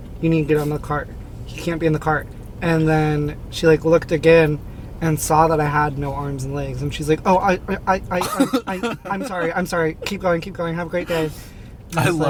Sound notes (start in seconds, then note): 8.2 laughing